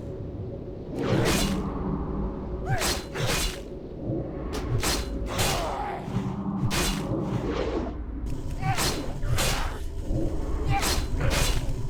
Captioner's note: grunts